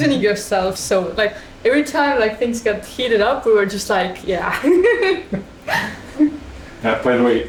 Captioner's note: laughter